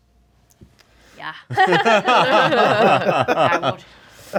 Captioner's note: laughing